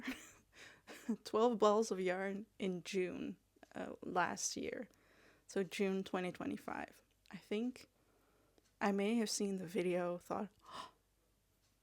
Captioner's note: gasp